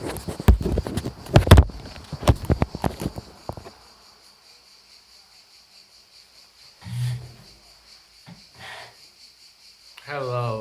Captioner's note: gentle crickets